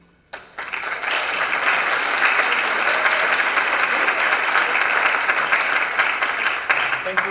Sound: applause

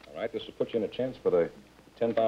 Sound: none

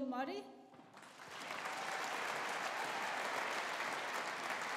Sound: audience applauding

